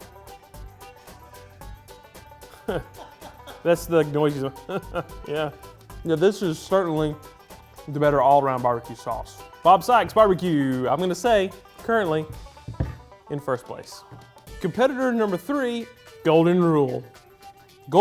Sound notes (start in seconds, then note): 0.1 upbeat country music; 2.5 chuckles